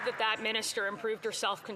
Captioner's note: some Applause